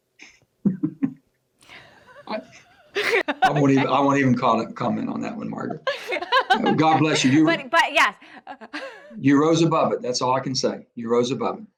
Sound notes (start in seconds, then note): 0.1 laughs; 8.5 chuckles